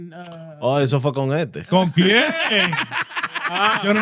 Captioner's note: speaking Spanish; laughing; speaking In Foreign Language